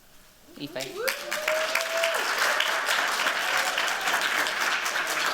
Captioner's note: applause